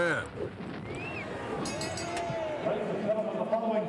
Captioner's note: bell chimes